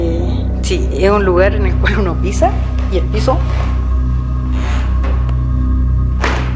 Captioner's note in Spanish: Piso rechinando